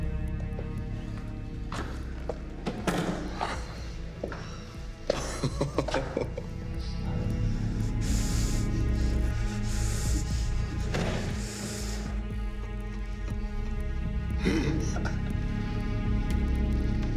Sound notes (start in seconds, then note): 5.1 Andre laughing; 7.0 dramatic music; 14.1 Andre laughing